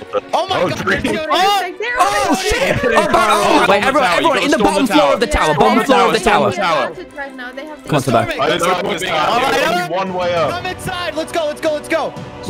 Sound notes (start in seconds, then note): 8.4 voice overlay